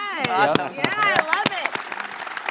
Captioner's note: audience clapping; clapping